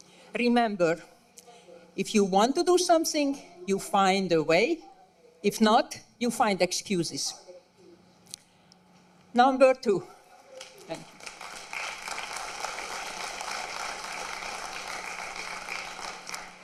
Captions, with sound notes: REMEMBER IF YOU WANT TO DO SOMETHING, YOU FIND A WAY. IF NOT, YOU FIND EXCUSES. NUMBER TWO--[APPLAUSE]